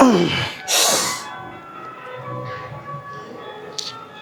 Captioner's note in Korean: 콧방귀